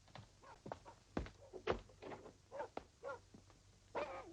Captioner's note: dogs barking